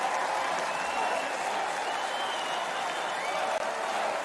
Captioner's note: crowd cheers; crowd chants "Fight"